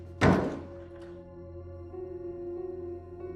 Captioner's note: door slamming